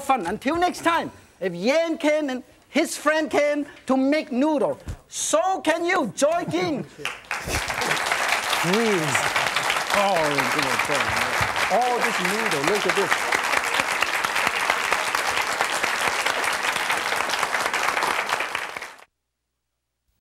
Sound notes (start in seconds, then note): 7.1 audience claps